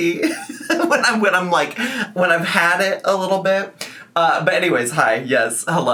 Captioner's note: laughs